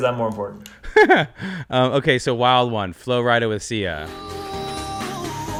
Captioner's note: laughs